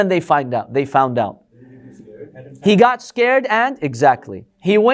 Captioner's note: audience replying